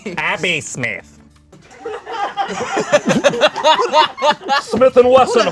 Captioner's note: group laughs